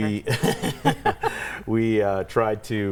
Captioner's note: laughing